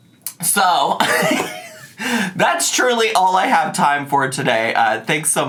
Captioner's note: laughs